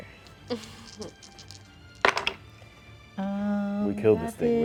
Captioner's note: dice rattle then thud